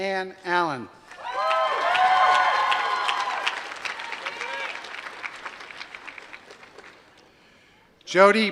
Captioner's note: applause